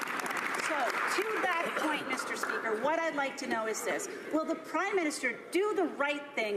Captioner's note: some Applause